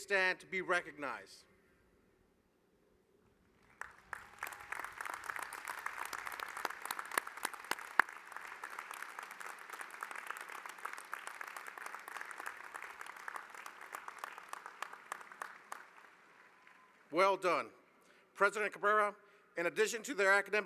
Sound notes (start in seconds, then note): 7.0 applause